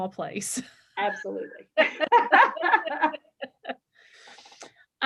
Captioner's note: laughter